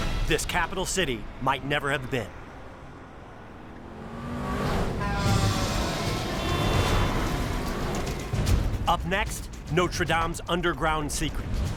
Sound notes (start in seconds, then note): 3.8 car whooshes; 4.2 car horns honk; 4.9 cars rev